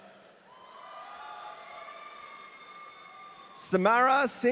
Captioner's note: audience cheering